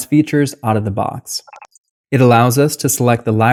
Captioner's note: beep